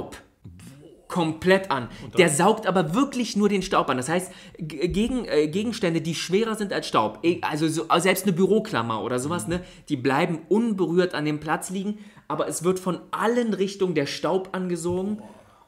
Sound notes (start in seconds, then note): none